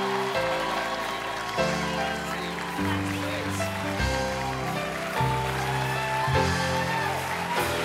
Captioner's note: applause